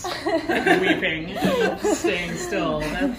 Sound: group laughing

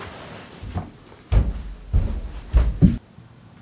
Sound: footsteps

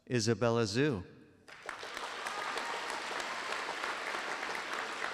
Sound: applause

